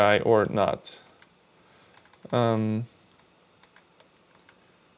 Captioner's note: keyboard clicking